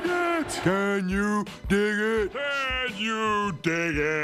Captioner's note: deep voice